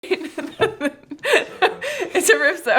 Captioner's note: laughing